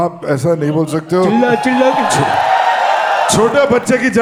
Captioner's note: crowd applauding